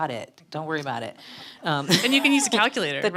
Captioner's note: panel laughing